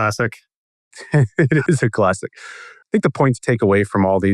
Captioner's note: laughs